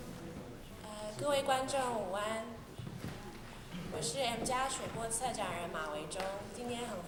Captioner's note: Mandarin